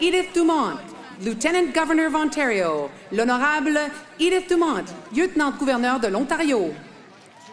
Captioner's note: applause